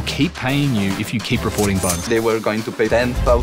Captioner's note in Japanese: レジの音